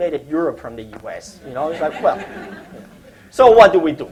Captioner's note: laughter